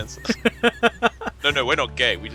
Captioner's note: laughter